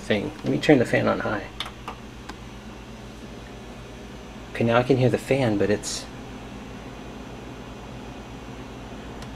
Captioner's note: low whirr